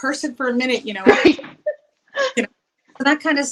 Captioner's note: laughs